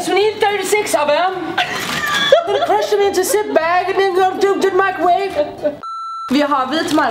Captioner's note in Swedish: härmar